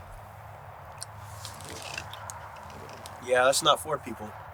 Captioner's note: Aidan spits